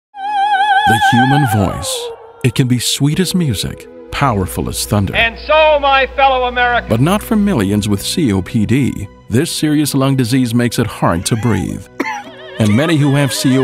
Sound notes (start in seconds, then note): 11.0 SFX: Cough. Hack. Wheeze